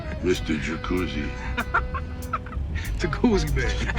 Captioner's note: Tyson laughing